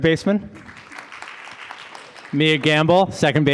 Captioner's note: audience applauding